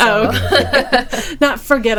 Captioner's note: people laughing